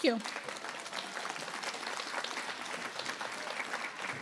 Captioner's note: applause